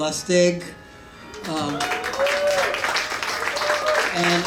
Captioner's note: cheering